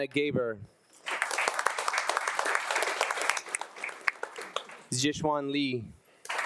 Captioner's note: attendees applauding